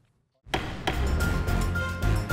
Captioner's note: gavel banging twice; dramatic music